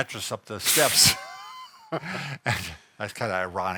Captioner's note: chuckles